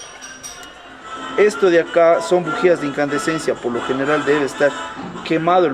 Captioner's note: in Spanish